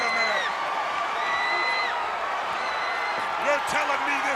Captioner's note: crowd cheering